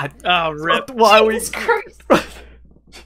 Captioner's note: laughs